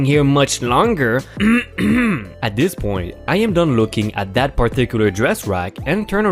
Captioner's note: loudly clears thoat